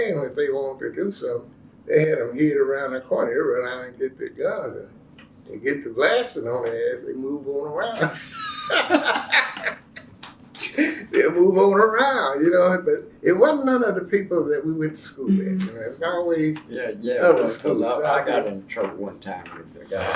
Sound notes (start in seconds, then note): 8.0 laughter